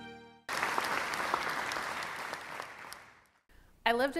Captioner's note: applause